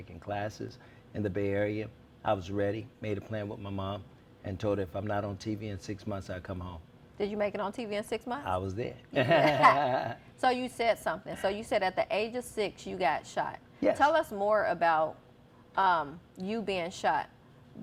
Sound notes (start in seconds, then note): 9.2 laughs